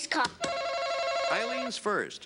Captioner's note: buzzer buzzes